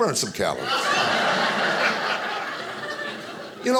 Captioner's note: audience laughing